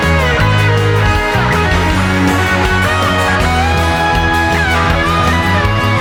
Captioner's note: applause